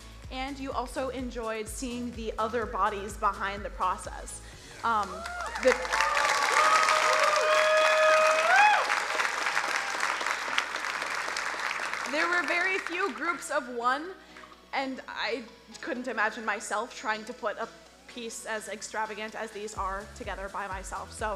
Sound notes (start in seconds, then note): 5.0 crowd cheering and applauding